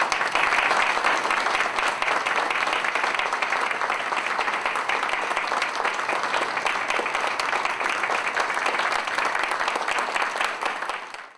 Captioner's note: applause